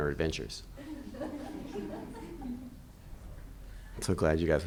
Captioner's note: audience laughing